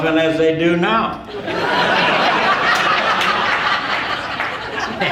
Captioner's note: audience laughing